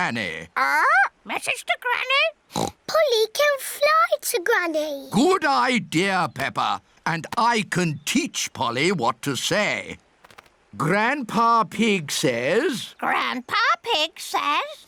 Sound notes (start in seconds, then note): 2.5 oinks